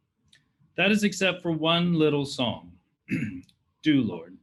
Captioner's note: clears throat